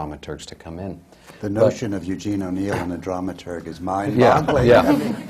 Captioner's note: laughter